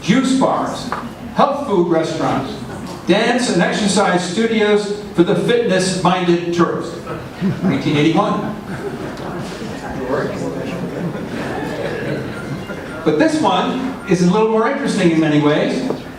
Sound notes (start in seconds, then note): 8.9 audience stirs and laughter breaks out